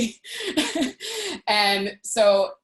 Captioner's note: laughing